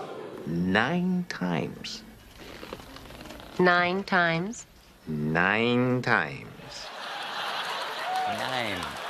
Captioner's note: audience reacts